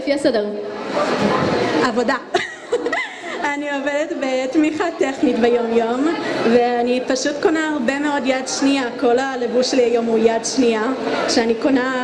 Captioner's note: laughs